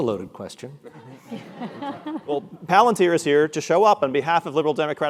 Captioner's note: laugh